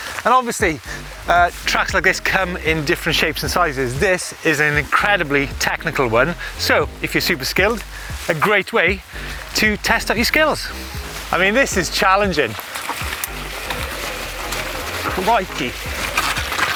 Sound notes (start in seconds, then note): 12.8 bike sloshing; 16.5 bike crunching and sloshing